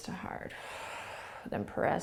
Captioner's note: exhaling